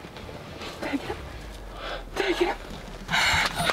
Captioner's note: bow cracking; chuckles; faintly laughing